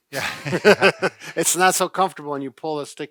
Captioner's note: cheerful laugh